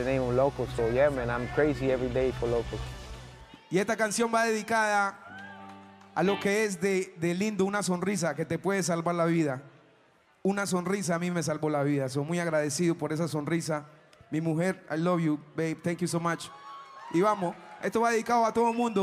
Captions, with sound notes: (speaking in Spanish) (speaking in Spanish) - I love you, babe, thank you so much. (speaking in Spanish)